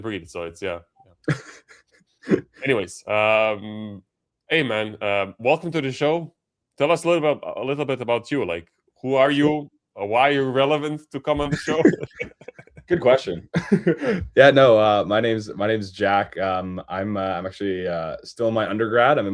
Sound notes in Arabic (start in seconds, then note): 14.5 ضحك; 15.5 يُصفّي صوته